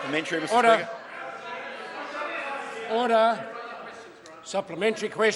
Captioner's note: members talk loudly